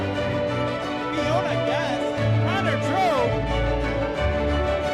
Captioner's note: voices speaking